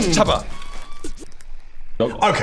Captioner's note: record scratch